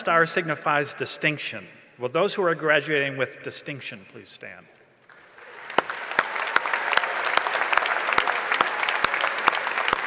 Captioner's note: applause and cheering